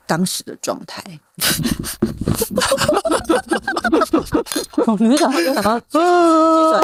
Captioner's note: laughing